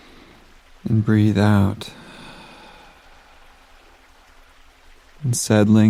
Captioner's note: inhales deeply; exhales slowly